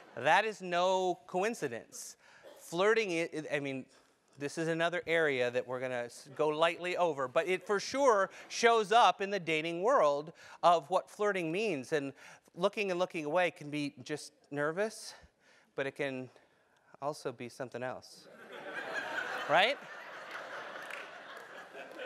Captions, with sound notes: That is no coincidence. Flirting, this is another area that we're going to go lightly over, but it for sure shows up in the dating world of what flirting means, and looking and looking away can be just nervous, but it can also be something else. >> [LAUGH] >> Right?